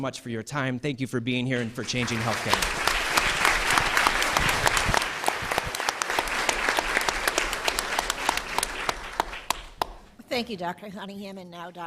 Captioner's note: applause